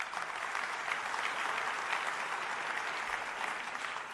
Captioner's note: applause